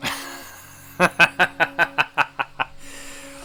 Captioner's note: laughing